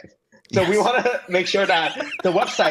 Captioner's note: laughter